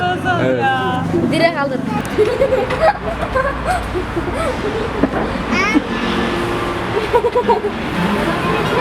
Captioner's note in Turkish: gülücük sesleri